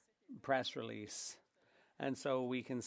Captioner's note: speaking French